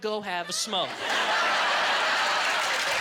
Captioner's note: applause